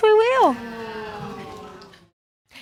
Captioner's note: audience exclaiming